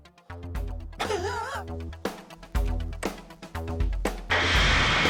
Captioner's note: laughing; upbeat electronic music